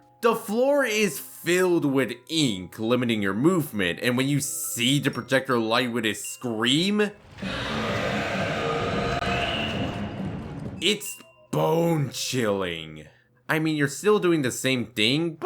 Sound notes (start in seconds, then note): 7.4 projectionist scream